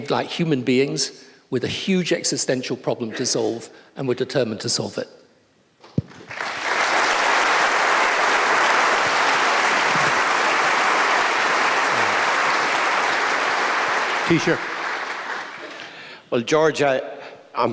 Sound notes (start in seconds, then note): 10.6 applause